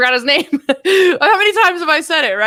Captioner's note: chuckles